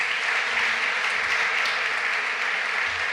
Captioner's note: applause